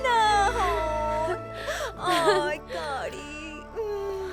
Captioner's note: Caridad ríe